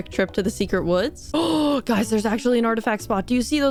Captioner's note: gasp